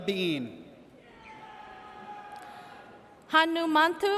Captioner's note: audience cheers